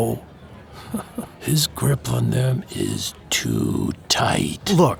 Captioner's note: laughs